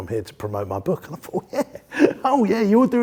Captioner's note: laughs